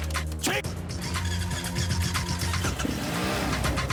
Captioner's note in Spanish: ruido al tratar de arrancar la motocicleta; ruido de la motocicleta